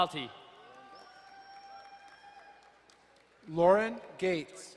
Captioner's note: crowd cheering and applauding